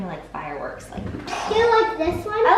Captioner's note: imitates explosion